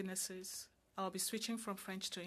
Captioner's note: speaking French